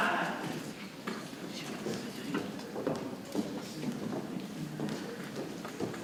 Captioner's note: people chattering softly